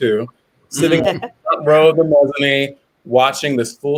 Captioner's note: voice muffled